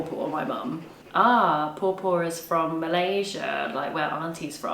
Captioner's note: speaks a foreign language